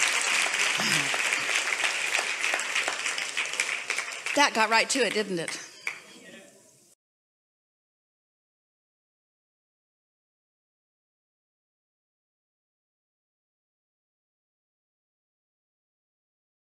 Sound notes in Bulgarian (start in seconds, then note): 0.0 Аплодисменти